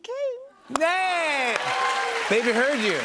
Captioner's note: cheers and applause